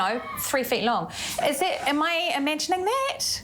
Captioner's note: laugh